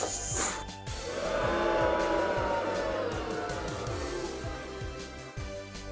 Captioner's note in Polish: buuuu